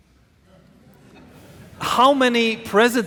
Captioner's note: audience laughing